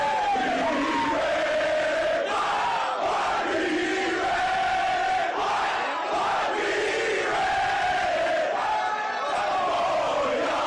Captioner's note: screaming; cheering